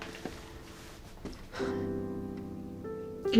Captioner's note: sighs